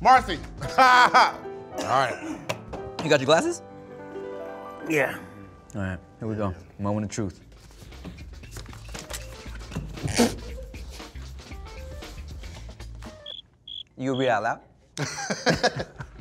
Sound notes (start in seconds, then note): 0.6 laughs; 10.0 laughing; 14.9 both laughing